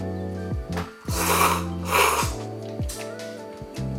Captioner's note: big slurps